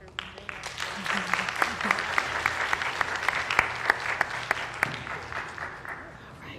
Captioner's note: applause